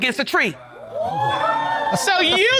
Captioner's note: audience exclaims